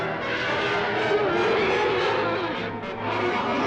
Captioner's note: roaring